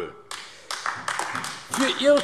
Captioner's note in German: Beifall AfD